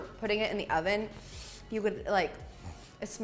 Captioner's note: inhales deeply